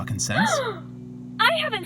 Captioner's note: gasp